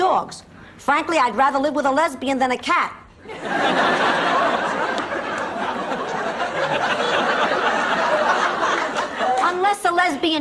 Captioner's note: laughs